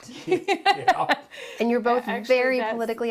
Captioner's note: laughter